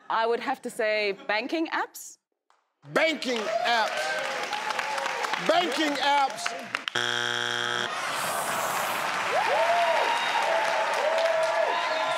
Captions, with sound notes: - I would have to say, banking apps? - Banking apps. (clapping) Banking apps! (buzzing) (cheering)